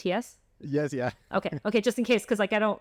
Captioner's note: laughter